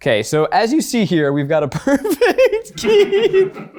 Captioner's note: giggles; person chuckles